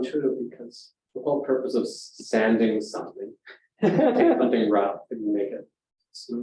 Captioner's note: audience chuckling